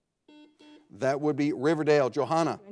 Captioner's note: buzzer blares